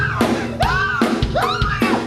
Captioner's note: screams